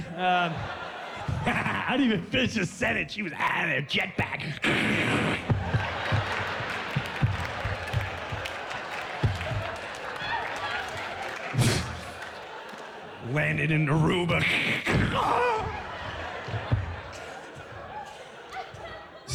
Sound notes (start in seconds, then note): 1.0 laughs; 4.4 imitates jet pack taking off